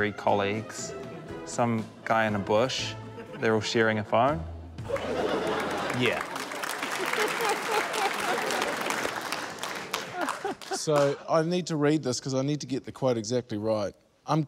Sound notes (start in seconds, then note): 8.3 applause